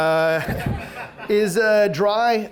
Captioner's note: audience laughs